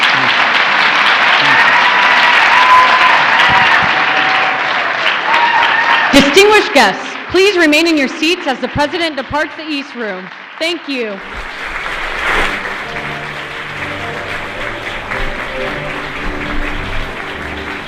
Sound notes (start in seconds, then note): 5.3 applause